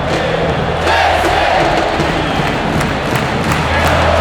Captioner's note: shouting